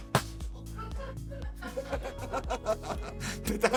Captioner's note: laugh